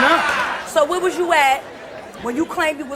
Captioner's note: audience laughs